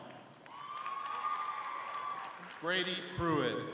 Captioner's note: crowd cheering